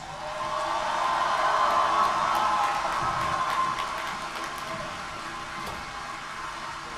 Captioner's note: more applause